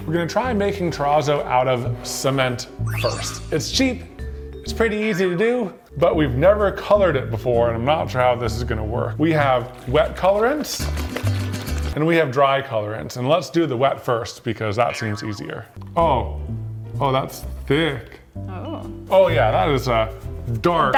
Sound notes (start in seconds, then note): 10.8 liquid sloshing; 10.9 upbeat music